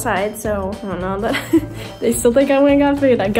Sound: laughs

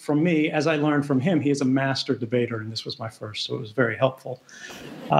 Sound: laughter

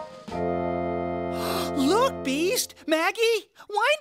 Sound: gasp

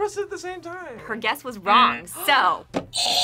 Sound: gasps; buzzer rings

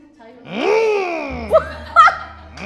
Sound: vroom

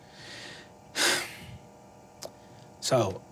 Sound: sighs

